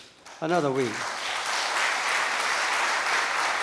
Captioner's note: applause from the audience